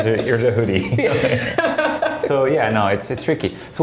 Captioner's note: laughing